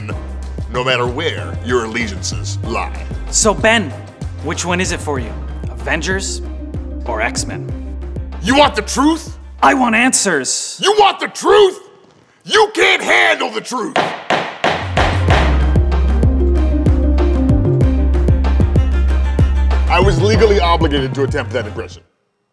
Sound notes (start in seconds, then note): 13.9 gavel bangs; 16.7 upbeat music